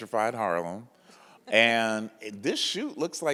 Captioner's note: chuckles